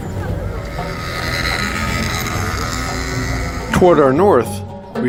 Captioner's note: motorcyle sound